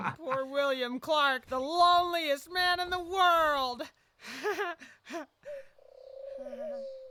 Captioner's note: laughs